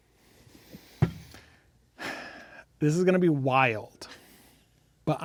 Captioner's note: sighs